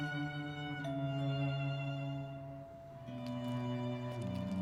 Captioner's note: doorbell ringing